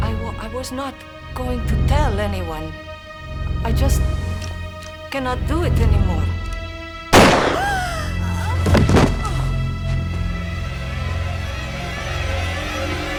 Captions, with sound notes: I was not going to tell anyone. I just can not do it anymore. (gun firing) (gasping)